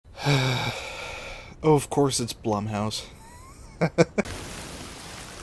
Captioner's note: sigh; laughter